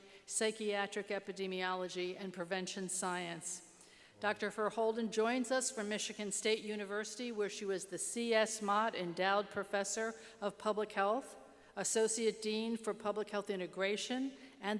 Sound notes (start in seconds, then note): none